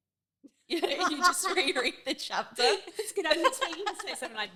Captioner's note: laughing